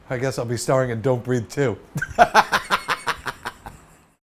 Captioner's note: laughs